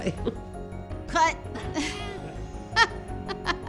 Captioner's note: laughs